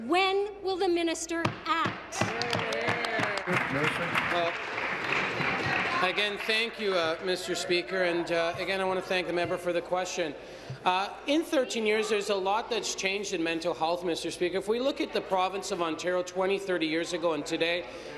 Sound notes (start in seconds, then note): 6.1 applause